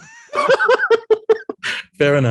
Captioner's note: group laughs